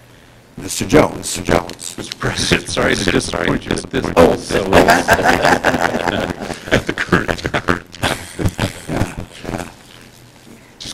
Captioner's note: laughter